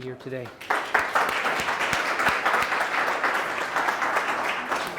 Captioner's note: applause